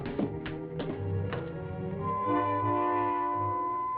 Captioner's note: beeping